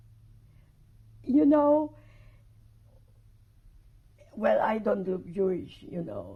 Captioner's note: pauses for 3 seconds